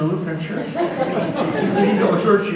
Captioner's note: audience laughs